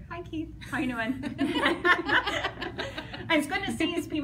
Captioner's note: laughing